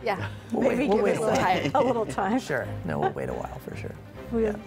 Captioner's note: laughter